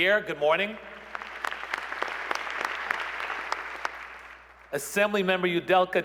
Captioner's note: applause